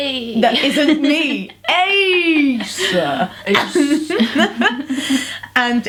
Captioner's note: laugh